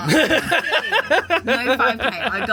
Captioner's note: laughing